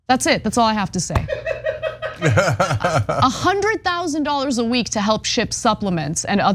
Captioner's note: laugh